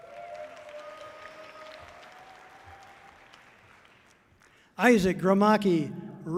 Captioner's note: audience cheering loudly